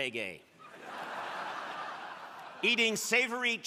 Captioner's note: crowd laughing